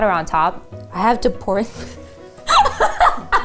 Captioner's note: laughing